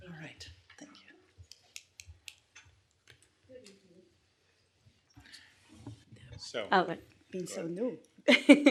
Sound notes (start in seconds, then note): 1.5 pen clicking